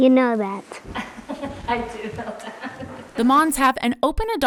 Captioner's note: laughs